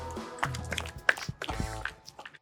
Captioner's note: shoes clack